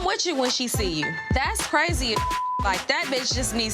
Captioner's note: beep